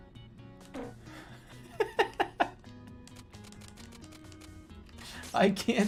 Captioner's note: laughing; laughing harder